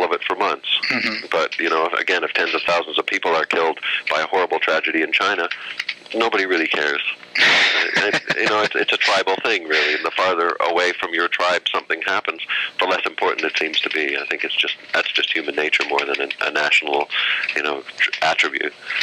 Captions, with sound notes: our newspapers are full of it for months. But you know, again, if tens of thousands of people are killed by a horrible tragedy in China, nobody really cares. (laughter) It's a tribal thing really, and the farther away from your tribe something happens, the less important it seems to be. That's just human nature more than a national attribute,